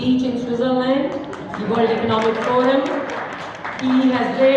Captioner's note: applause